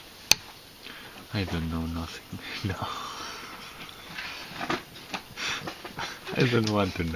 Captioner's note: laughs